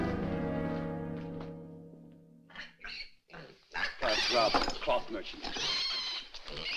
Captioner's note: pig Squealing